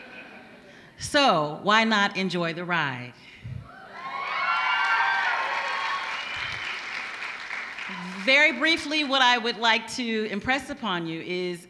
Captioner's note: applause